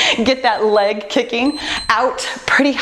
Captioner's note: timer beeps